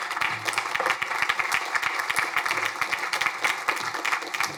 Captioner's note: crowd applauding